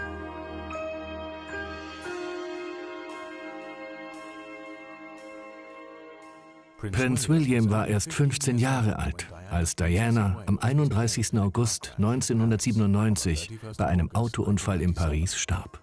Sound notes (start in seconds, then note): 6.8 voiceover